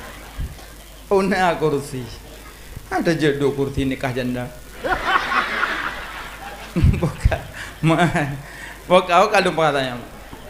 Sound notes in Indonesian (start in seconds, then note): 4.7 tertawa